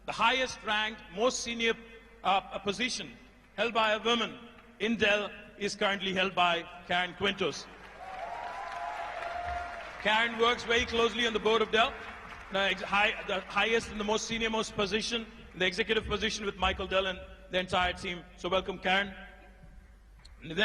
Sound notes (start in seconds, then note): 7.7 applause